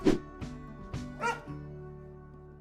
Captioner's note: whooshing; dog barking